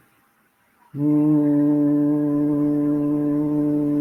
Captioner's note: humming